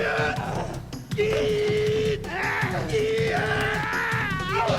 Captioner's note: groaning; screaming